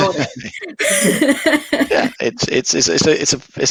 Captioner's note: both laughs